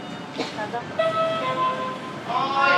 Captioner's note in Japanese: ピンポーン